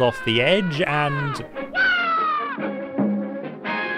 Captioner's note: yelps